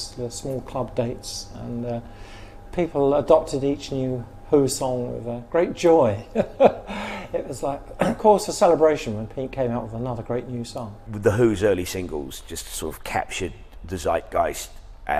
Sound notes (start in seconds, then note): 6.2 laughs